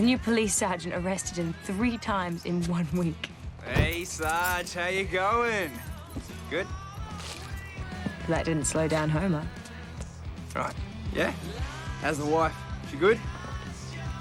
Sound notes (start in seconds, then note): none